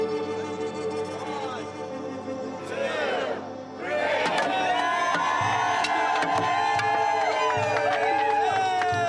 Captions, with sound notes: - [Crowd] One, two, three. (crowd cheering)